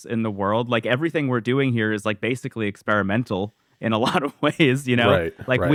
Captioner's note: laughs